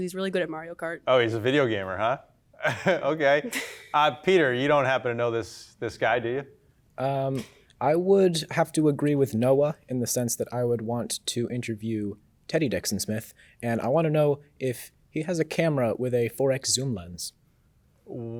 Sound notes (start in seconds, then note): 2.6 chuckles